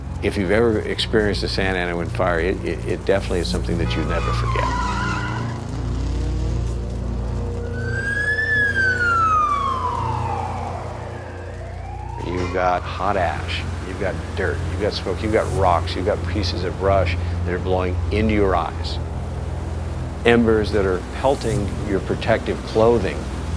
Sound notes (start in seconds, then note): 5.0 honking, tires screeching